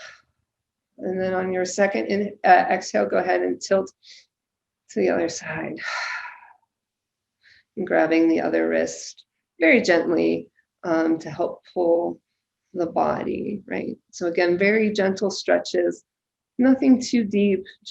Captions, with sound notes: And then on your second exhale, go ahead and tilt (inhales) to the other side (exhales). And grabbing the other wrist, very gently to help pull the body, right? So again, very gentle stretches, nothing too deep,